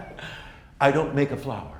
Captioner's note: laughs